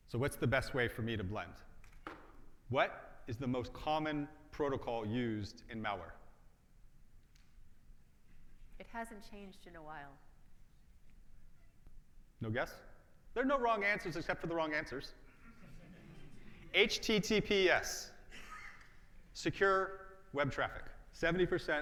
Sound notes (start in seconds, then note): 15.3 audience laughs